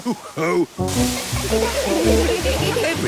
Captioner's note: laughter